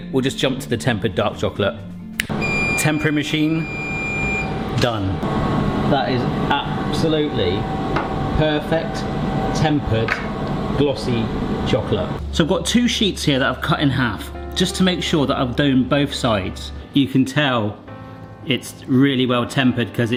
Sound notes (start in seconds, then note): 2.2 snaps fingers; 2.3 machine beeps; 5.2 machine hums and whirs; 14.1 melancholic music